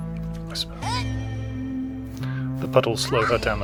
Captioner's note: whisper